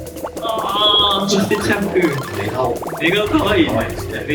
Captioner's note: laughs